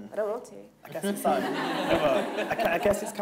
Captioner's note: audience laughing